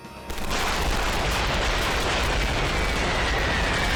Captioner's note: gunfire erupts; bombs whistling